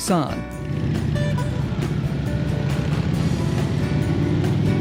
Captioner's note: motorcycle engine roaring